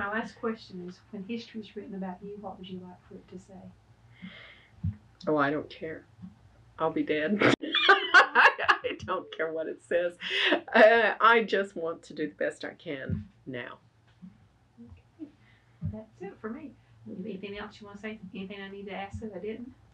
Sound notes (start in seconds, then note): 7.4 laughs